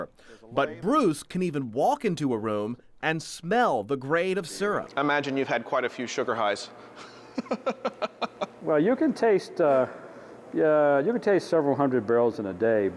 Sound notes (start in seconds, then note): 7.0 laughing